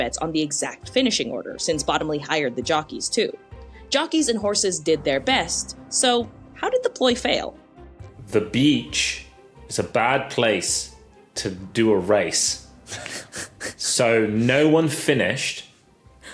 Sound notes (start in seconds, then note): 12.9 snicker